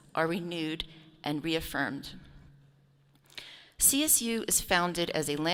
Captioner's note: none